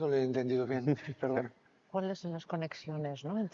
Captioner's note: speaks in foreign language; speaking in foreign language